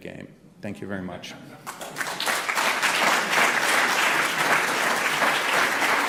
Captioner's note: applause